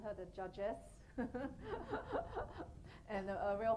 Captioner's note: laughing